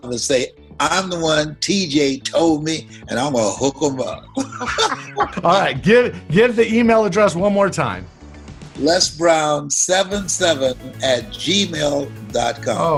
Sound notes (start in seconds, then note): 4.2 both laughing